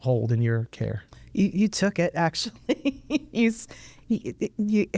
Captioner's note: laughs